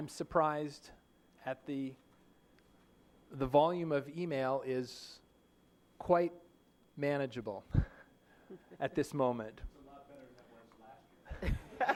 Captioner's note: laughter